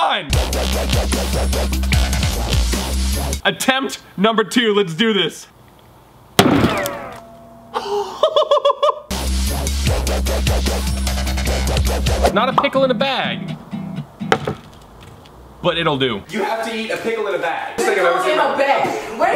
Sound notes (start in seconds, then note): 0.4 dramatic music; 6.4 bullet rebounding; 6.4 hammer bangs; 7.8 laughs; 9.1 dramatic music